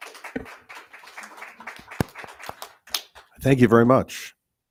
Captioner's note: audience clapping